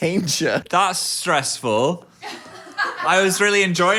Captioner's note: everyone laughs